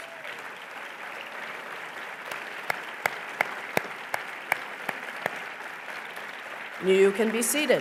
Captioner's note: applause